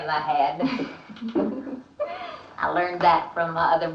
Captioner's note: both chuckling